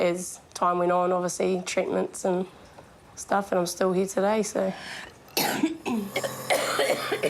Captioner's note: coughs